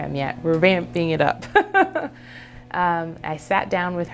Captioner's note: laughs